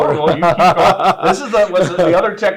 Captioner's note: both laugh